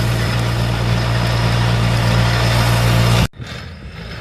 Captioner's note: engine rumbling